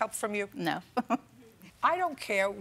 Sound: chuckles

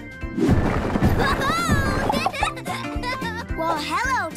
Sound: laughing

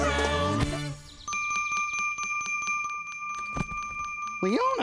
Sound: bell ringing

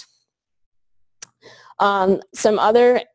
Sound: pause

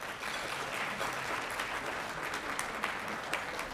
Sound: applause

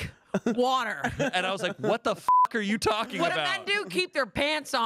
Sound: beep

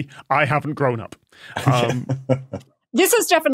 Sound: chuckles

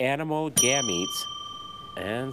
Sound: bell dings

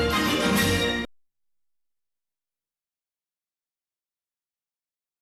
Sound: silence

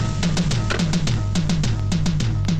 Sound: receiver hang up

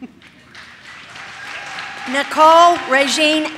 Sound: audience cheers

